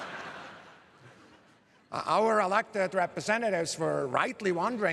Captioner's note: laughter